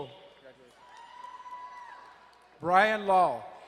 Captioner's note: crowd cheering and applauding